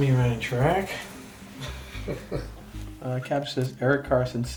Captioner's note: laughs